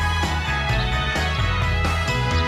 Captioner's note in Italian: Applauso